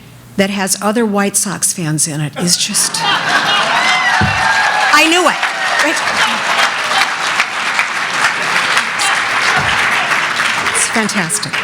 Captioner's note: applause; laughter